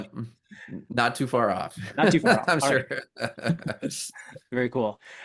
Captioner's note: laughs